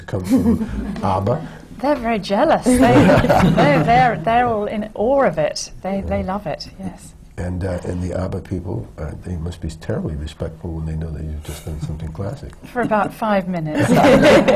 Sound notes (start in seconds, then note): 2.6 giggles; 2.7 laughter